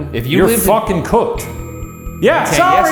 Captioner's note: REM pod screeching